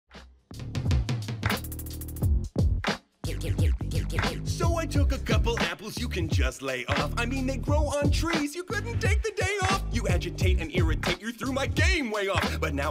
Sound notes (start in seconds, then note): 0.3 record scratching